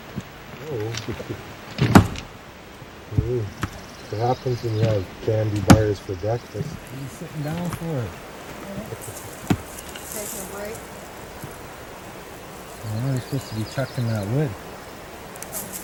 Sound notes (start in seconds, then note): 6.4 laughter